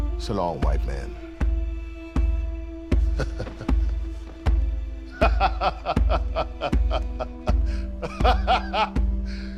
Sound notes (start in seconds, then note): 2.8 laughing